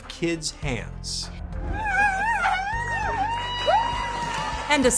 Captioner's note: and crowd cheering